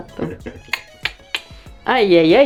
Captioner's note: makes ticking noises